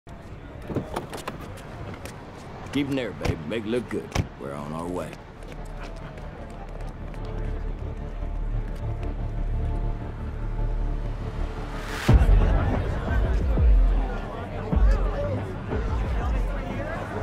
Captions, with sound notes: Getting there, babe ! Make it look good. We're on our way. [People chattering]